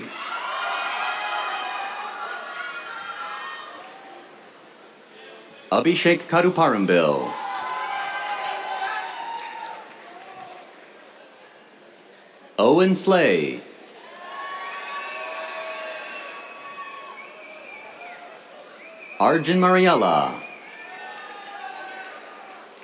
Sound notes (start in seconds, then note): 0.0 cheers; 7.1 cheers, applause; 14.0 cheers, whistles; 19.9 cheers, applause